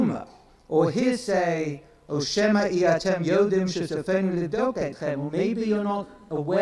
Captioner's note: speaks in foreign language